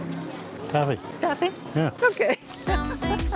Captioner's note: laughs